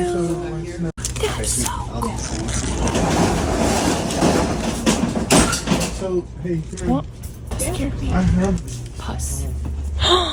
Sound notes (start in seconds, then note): 2.5 object clattering; 10.0 gasps